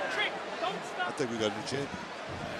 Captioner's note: yelling